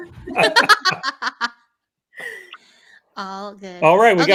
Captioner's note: laughing